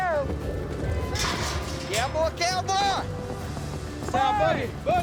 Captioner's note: gate clanks